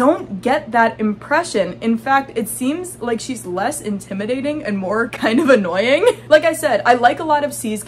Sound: laughing

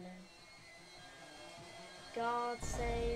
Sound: Sanic's ambience getting louder as Sanic approaches Théo

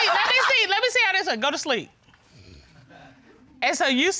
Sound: imitates snoring

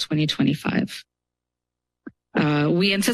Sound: pause

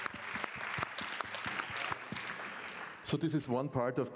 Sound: applause

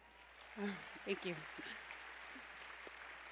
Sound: applause

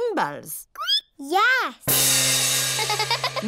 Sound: squeaks; giggles

